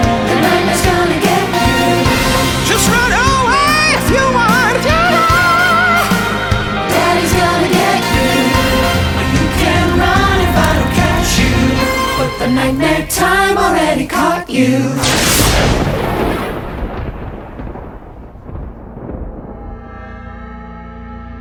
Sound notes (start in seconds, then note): 18.1 lighting crashing